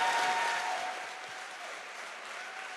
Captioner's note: applause